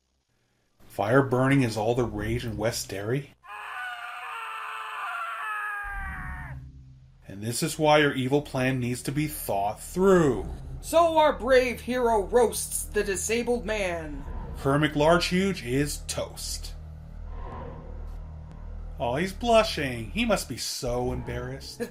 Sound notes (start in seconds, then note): 3.4 long scream of pained anguish can be heard